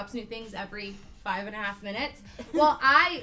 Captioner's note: laughter